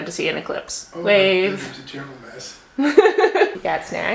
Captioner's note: laughter